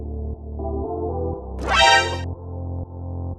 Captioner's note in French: MGS sound